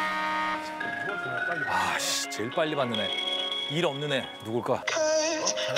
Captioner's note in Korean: 휴대전화 통화 연결음